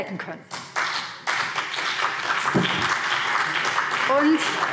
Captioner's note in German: Beifall BÜNDNIS 90/DIE GRÜNEN und CDU